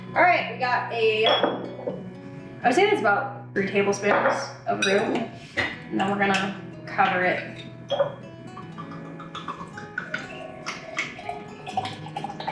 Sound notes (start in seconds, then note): 8.4 water pouring; 9.2 calm music playing